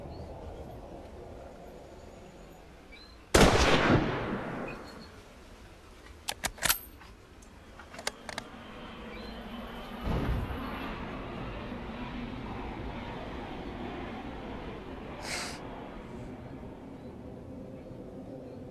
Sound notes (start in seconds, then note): 3.4 gunshot; 9.7 airplane engine roaring